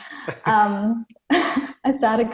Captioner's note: laughs